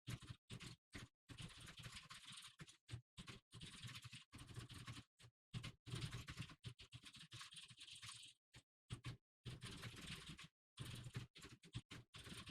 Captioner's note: typing sounds